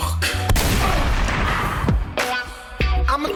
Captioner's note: shotgun blast